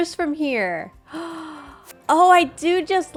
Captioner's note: gasps